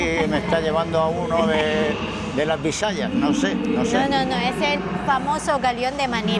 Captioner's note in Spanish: carraspeo